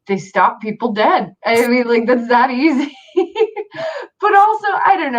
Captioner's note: laughs